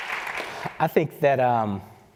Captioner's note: applause